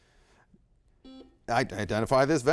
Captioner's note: buzzer blaring